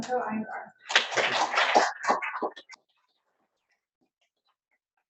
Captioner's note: audience applauds